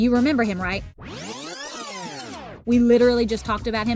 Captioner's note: tape rewinding